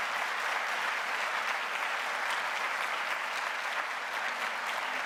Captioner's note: has Applause